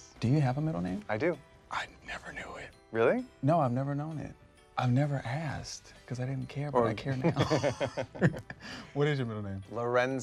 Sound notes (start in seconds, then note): 7.1 Michael laughs